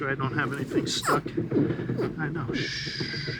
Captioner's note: gurgling